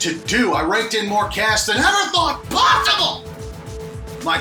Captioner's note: shouting